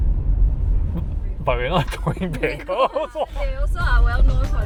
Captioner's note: laughter